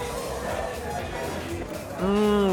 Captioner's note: slurping